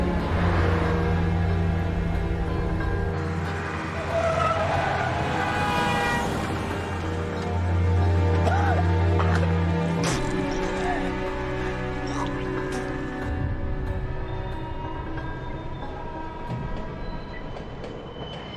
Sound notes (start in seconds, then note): 3.2 tires screech; 4.0 car horn honks; 8.2 coughing